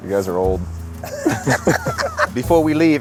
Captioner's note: group laughs